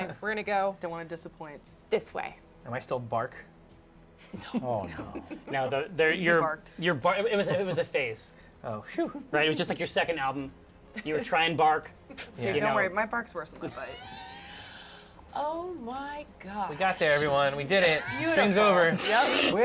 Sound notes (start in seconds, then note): 4.8 whispers; 13.7 wheezing laugh